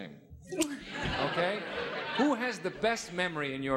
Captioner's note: audience laughing